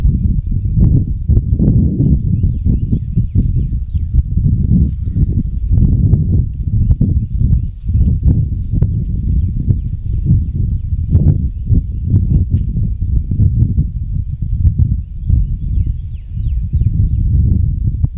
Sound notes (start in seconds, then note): 3.4 wind continues; 13.2 leaves crunch as the hunters shift